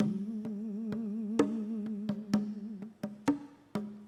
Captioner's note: hums